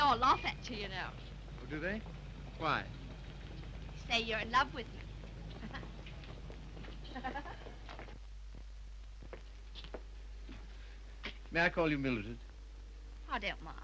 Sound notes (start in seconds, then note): 7.1 giggles; 7.1 chuckles